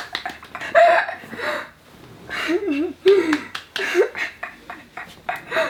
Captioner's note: laughing